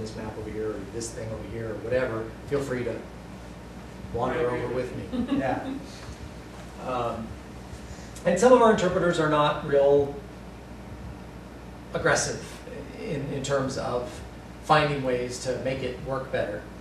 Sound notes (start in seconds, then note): 5.1 laughter